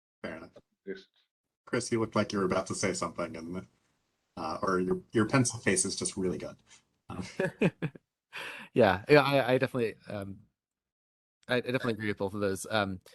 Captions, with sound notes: - Fair enough. Chris, you looked like you were about to say something, or your pensive face is just really good. - (laughing) Yeah, I definitely agree with both of those.